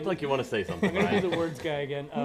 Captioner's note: laughter